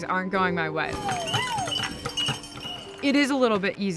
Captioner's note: bells ringing